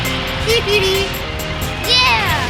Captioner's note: cheering; giggling